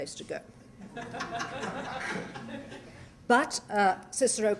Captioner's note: laughter